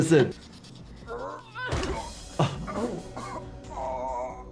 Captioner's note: man moaning